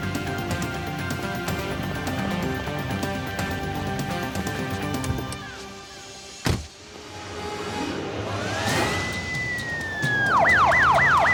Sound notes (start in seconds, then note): 0.0 suspenseful music; 6.4 car door slams; 8.3 siren wailing